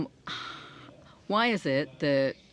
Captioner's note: speaking in French